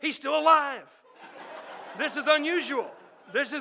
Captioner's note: audience laughing